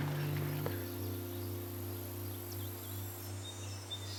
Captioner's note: birds chirping